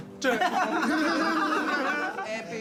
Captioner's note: laughter